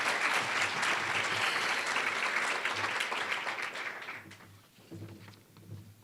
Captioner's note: applause